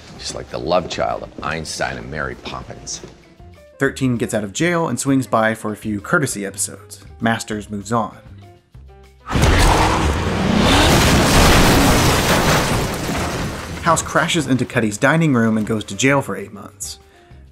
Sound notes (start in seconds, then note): 9.2 crash; 9.3 revving